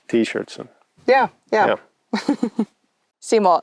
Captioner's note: chuckles